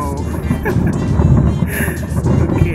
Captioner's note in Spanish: laughs